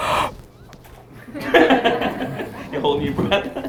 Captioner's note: audience laughter